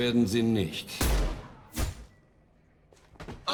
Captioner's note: bang